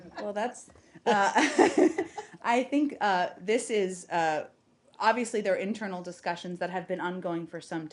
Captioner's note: laughter